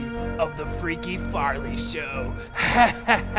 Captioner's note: laughing maniacally